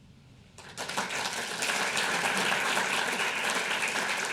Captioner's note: audience applause